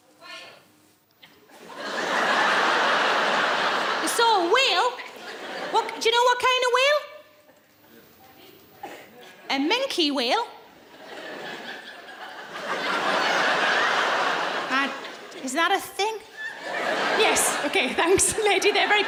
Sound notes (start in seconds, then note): 1.5 audience laughing; 11.0 laughing